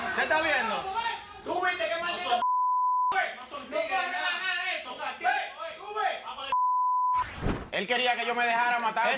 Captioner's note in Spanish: Hablan al unísono; Hablan al unísono